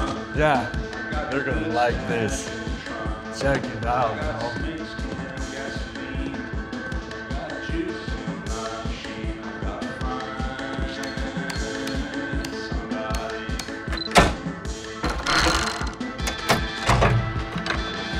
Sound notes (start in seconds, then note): 10.5 beeping; 14.0 clunk; 15.0 rattle; 16.8 kathunk